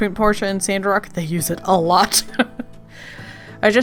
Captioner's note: laughs